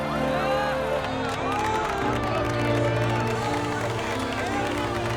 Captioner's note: clapping and cheering